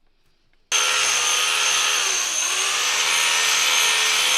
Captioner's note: sander grinding